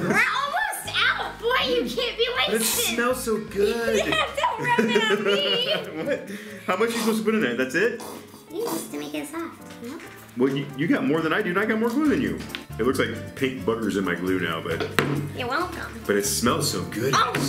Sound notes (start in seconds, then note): 5.7 laughs